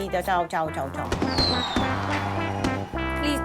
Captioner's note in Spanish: Aplausos, vítores